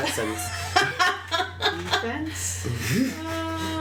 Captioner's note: laughs